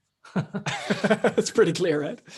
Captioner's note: laughing